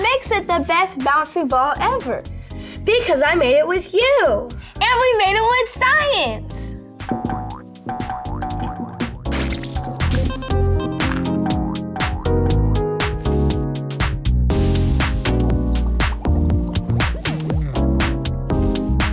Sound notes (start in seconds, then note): 7.5 upeat music; 11.0 beeping; 12.4 upeat music; 15.7 bubbling